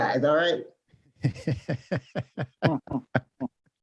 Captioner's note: laughs